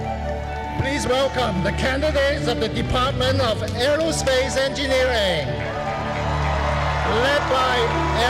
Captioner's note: cheering and music